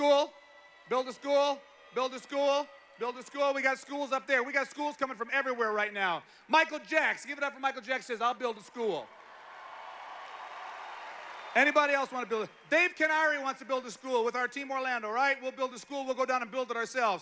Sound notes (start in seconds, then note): 8.4 applause